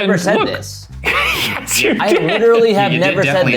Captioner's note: laughs